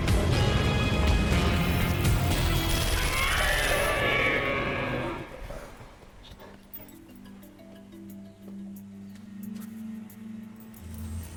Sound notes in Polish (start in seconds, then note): 2.3 szusy z maszinyngweru i wycie ôd laseraptora